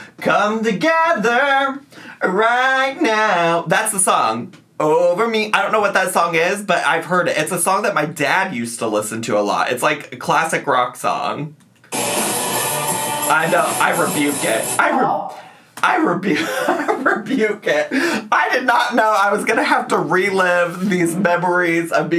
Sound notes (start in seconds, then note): 11.9 upbeat rock music; 16.4 laughs